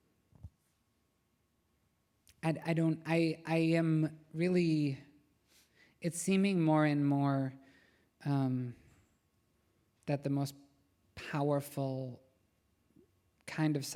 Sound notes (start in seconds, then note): none